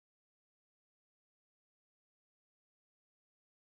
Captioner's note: none